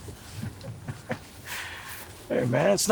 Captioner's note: Anderson chuckling